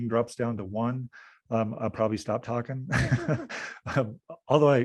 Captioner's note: laughing